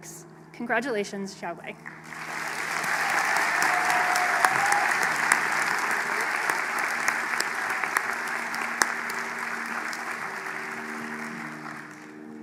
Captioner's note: applause